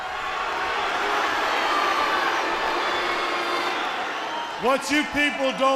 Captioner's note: crowd cheering